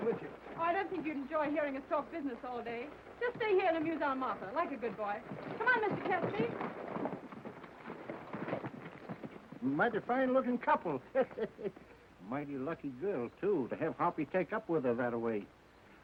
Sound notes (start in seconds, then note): 10.9 laughs